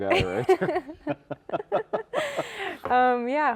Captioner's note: both chuckling